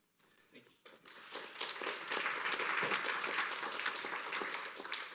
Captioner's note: applause